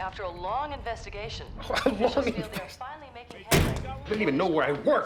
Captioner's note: mocks laughs